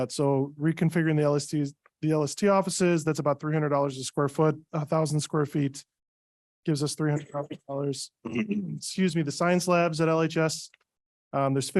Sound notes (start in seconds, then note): 8.2 clears throat